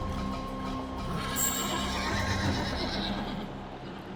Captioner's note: horses whinny